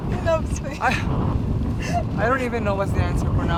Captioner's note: giggles